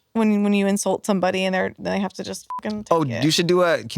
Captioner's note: beep